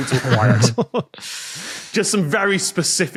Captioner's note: guests laugh softly